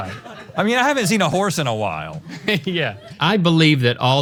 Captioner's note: laughs